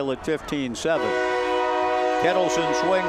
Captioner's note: train whistle blowing